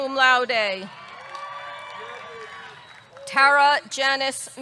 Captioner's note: audience clapping; audience cheering